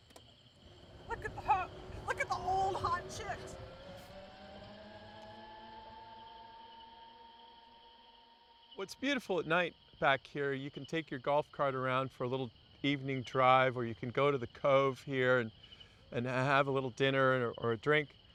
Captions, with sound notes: Look at the old hot chicks. (engine buzzes) - What's beautiful at night back here, you can take your golf cart around for a little evening drive or you can go to the cove here and have a little dinner or a drink